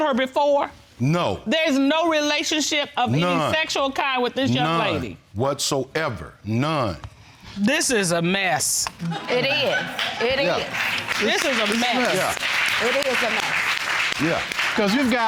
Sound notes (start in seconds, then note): 9.0 audience laughing; 12.9 audience clapping